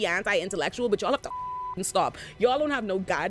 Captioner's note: beep